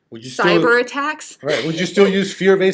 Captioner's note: laughing